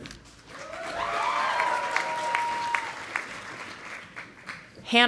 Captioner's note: audience applauding